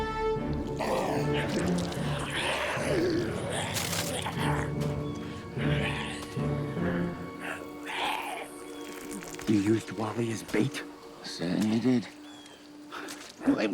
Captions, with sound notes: (Maiden 2 growls) You used Wally as bait? - I certainly did.